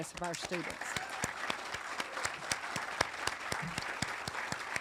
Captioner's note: audience applauding